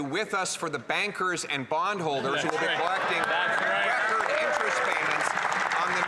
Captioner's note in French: voix de l'interprète